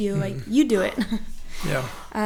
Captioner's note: laughing